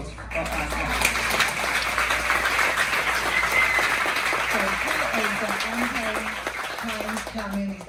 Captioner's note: claps with respect